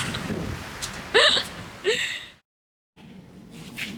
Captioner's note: laughs